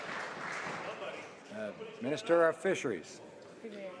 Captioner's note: some Applause